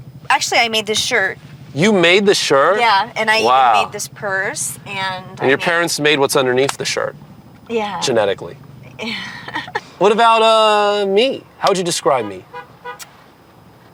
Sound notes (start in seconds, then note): 8.9 laughs